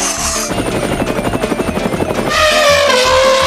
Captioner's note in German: Sehr lautes Kratzen; Hubschraubergeräusch; Elefant trompetet